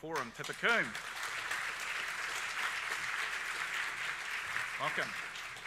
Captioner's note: audience applauds